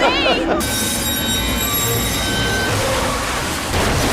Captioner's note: tracks screeching; crashing; yelling